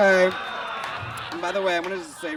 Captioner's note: audience laughs